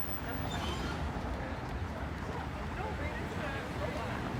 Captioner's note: people chattering